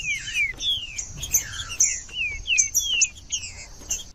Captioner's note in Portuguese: trinca ferro cantando